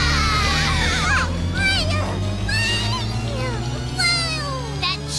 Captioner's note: excitedly